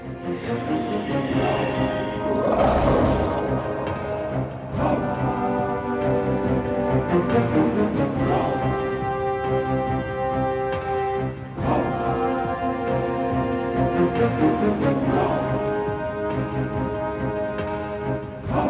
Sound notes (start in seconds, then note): 1.3 dramatic music; 2.2 creature grumbles; 5.6 suspenseful music; 9.1 suspenseful music continues